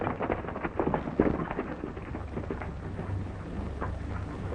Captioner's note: horses galloping